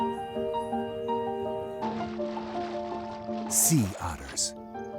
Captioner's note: mellow music; ocean sloshing